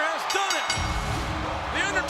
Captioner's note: bell dinging; upbeat music